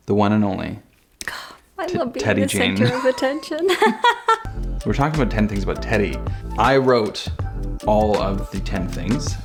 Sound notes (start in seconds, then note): 2.6 laughs